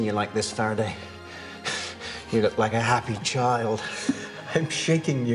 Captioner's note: <i> chuckling</i>